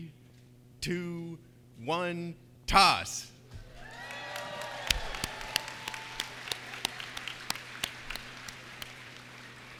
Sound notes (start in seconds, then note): 3.8 cheers and applause